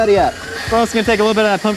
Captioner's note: whirring